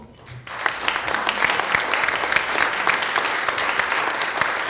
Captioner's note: audience applauds